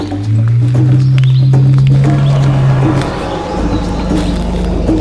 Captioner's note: drumbeat music continues; dinosaur growling continues